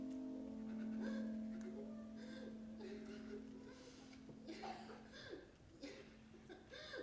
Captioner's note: boy crying